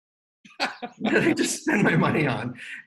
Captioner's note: laughing